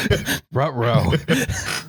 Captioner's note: laughter